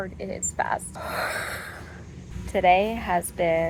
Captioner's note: loud breathing